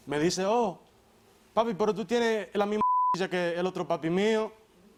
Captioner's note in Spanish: Bip